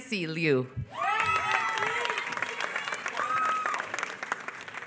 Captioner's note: applause